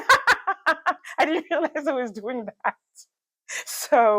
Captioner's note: laughs; laughs